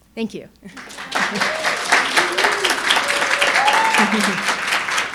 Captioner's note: audience cheering and applauding; chuckling